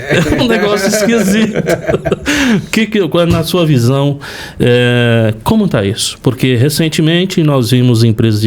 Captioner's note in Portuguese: risadas